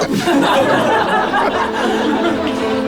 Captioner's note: people laughing; upbeat background music